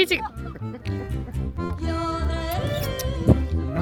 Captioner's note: the guys laughing behind us